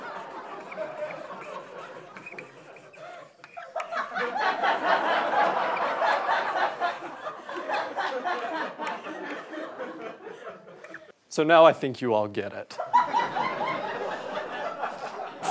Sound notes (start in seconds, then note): 0.0 audience laughter; 0.6 squeaking; 4.0 renewed audience laughter; 12.8 audience laughter